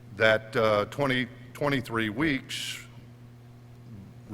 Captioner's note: none